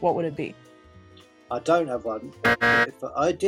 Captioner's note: loud incorrect buzzer